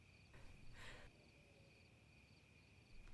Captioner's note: gasps